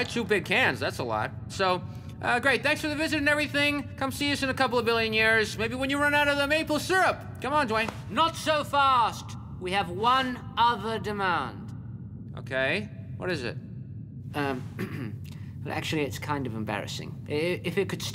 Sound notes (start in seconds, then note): 14.7 clearing his throat